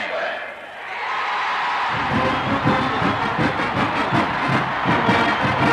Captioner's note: audience cheers